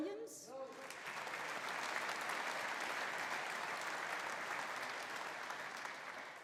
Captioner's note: audience applauding; audience cheering